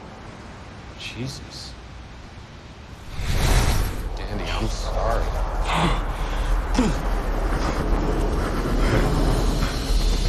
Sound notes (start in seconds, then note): 5.6 breathing heavily; 7.0 plane engine roaring